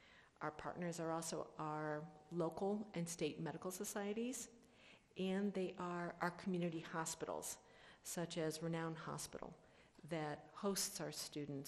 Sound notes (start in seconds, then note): none